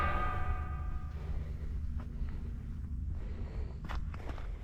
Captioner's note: sound of walking